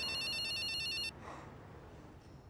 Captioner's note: sighs